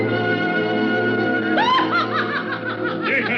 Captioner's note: laughing loudly